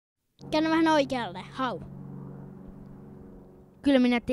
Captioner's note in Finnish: lentokoneen ääniä